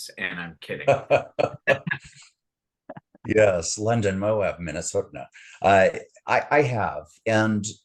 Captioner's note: haha